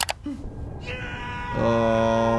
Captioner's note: Player 101 screaming